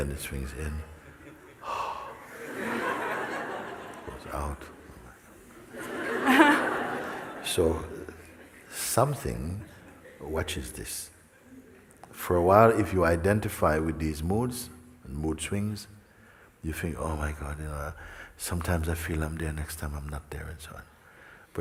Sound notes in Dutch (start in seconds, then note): 5.6 gelach